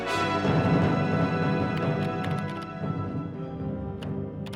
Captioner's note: keys clacking